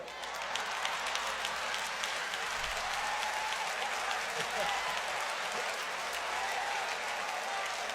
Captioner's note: audience applauds